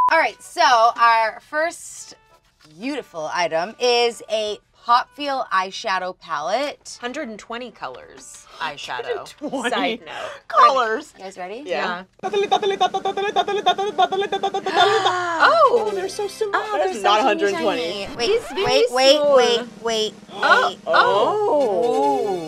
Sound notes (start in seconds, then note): 12.2 imitating a drum roll; 14.6 gasps